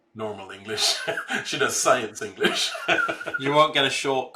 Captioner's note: laughs